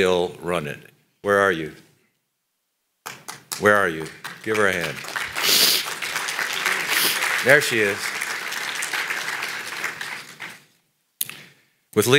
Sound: applause

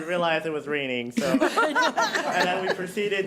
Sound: audience laughs

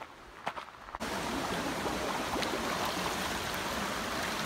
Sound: water rushes

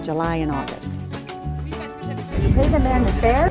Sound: people chattering

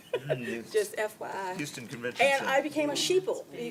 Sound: laughs

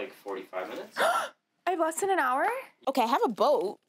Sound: gasp

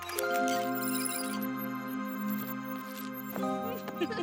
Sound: whirring; beeping; laughing

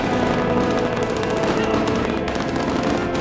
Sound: all grunting

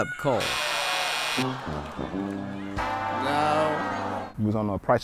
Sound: buzzer buzzing

